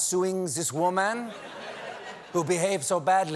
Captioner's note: french accent